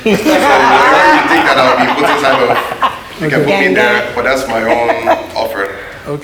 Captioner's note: judges Laughing